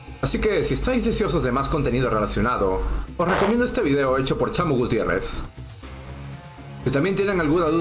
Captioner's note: in Spanish